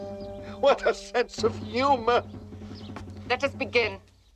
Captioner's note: laughs